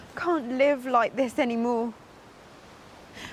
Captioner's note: none